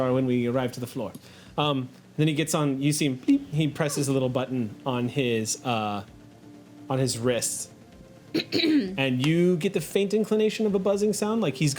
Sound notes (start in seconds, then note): 3.2 beeps